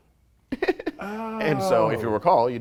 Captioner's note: light chuckle